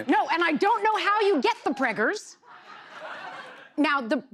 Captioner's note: laughter